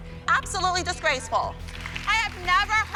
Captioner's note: applause